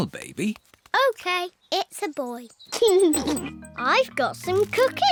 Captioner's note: giggles